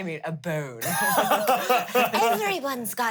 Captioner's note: laughs; everyone laughs